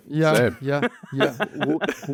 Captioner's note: laughs